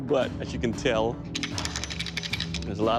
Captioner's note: rattles